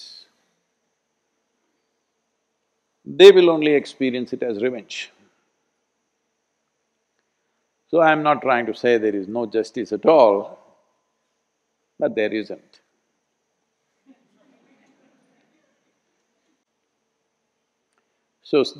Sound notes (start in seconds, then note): 14.1 laughter